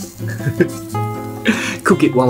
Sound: laughs

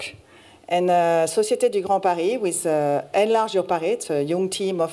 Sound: french

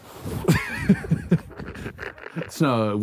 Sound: laughing

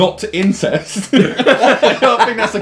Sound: everyone laughing

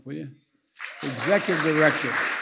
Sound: applause

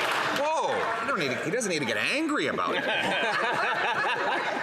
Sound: some Applause

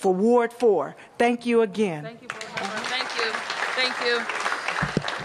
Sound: applause

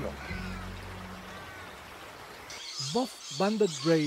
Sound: sounds of the wetlands, birds

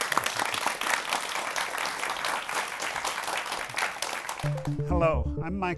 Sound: applause

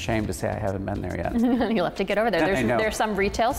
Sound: laughs

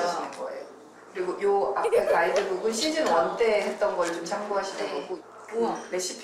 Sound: excited

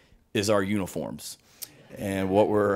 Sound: audience laughing

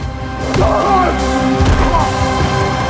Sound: shouts

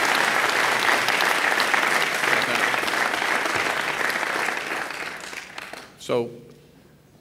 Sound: applause

